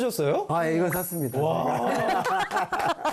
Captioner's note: confident; laughter